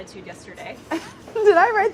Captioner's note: laughs